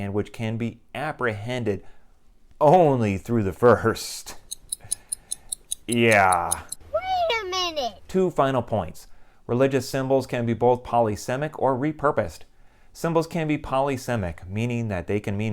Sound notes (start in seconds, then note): 4.4 clock ticking